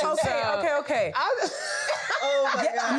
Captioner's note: all continue laughing